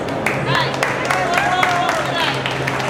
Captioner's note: people applaud